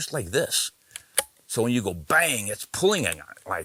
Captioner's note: gun clicks closed